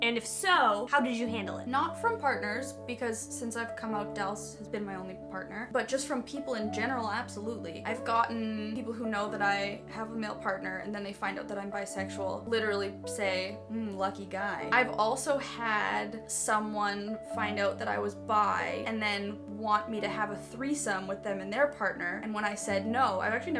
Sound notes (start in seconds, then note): none